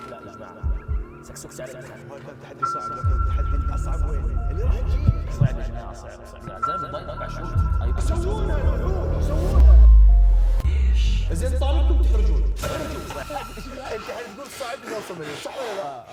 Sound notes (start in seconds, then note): 0.4 echoing; 9.6 shock